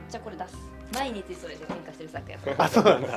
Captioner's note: laughs